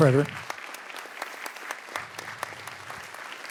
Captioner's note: audience applause